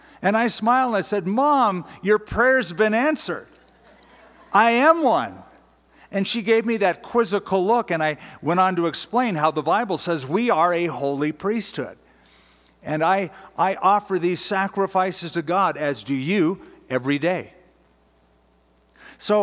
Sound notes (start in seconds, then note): 3.6 laughter